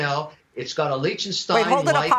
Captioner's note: laughter